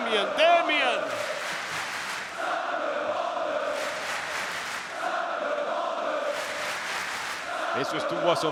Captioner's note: applause